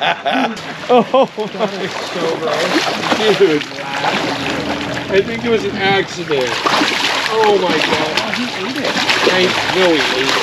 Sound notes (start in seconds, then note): 0.0 chuckling; 3.2 fish splashing; 8.5 fish splashing